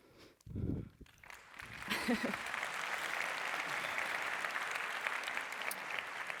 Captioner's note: applause